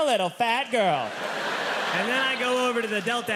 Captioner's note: audience laughing